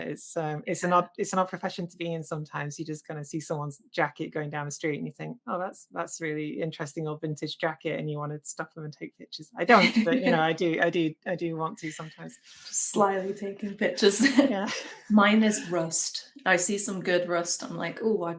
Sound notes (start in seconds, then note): 9.7 laughs; 14.9 laughs